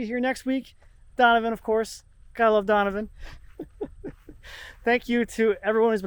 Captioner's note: laughs